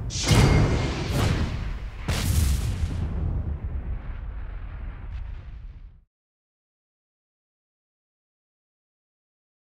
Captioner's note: whooshing sounds